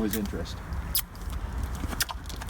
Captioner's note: kissing sounds